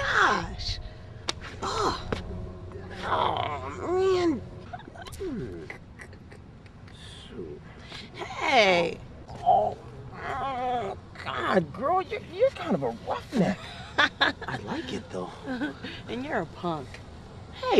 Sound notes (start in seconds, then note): 5.2 laughing